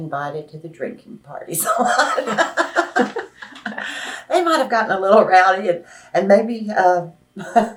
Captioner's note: laughs